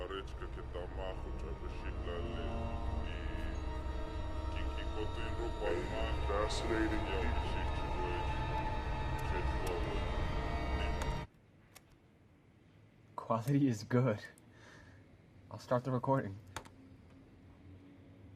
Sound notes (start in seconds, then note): 0.1 tense music; 11.1 tape stops